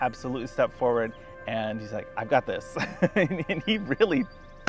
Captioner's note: laughs